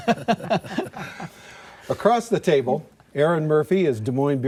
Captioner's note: laughter